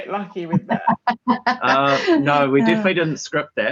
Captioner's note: hearty laughing